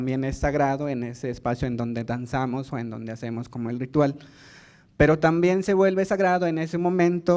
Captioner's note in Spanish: habla en lengua indígena